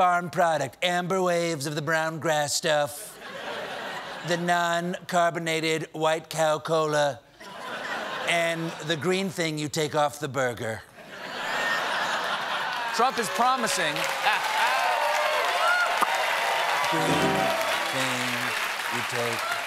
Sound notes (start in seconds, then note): 12.6 cheers and applause